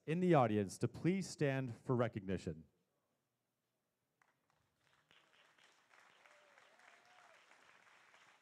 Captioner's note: applause